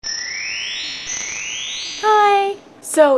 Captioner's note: chimes